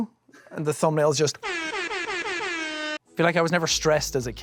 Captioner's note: air horn